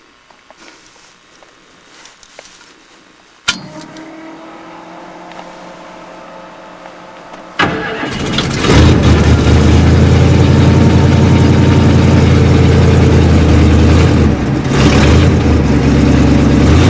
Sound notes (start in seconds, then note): 3.3 electric fuel pump; 7.5 engine starts